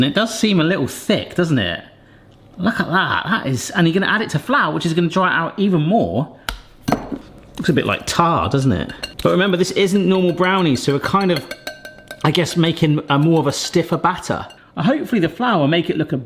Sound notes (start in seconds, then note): 6.5 mixture slaps; 6.5 whisk clanks